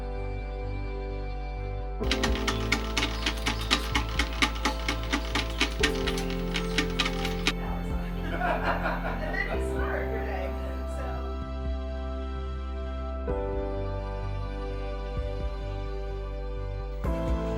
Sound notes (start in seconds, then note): 8.2 laughs